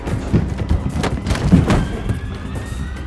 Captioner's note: tense chase music; body hitting floor; thud